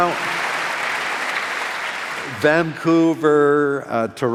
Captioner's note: applause